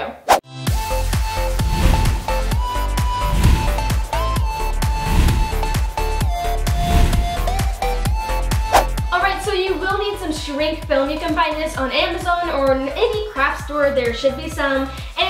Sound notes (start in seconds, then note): 1.2 swooshing